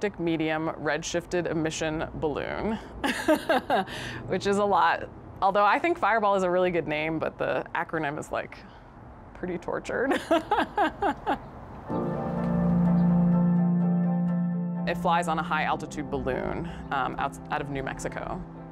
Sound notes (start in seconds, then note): 3.0 laughs; 10.1 laughs; 11.9 upbeat music